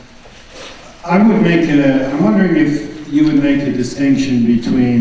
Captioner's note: voiceover